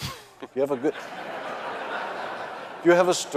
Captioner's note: audience laughing